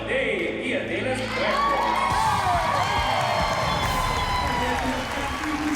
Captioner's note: applause and cheering